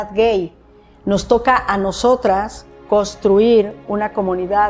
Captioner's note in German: spricht Spanisch